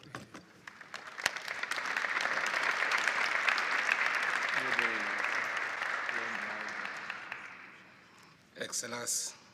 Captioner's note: applause